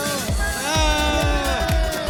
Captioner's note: cheering